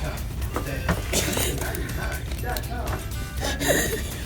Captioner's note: giggling